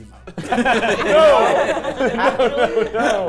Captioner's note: players laughing